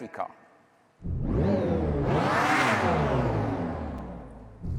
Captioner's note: Charger Daytona SRT engine revs